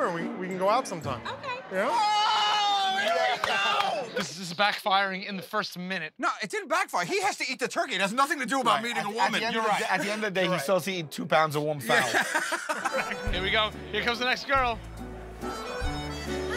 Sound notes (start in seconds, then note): 11.9 laughing